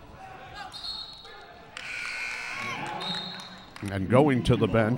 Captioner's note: whistle blaring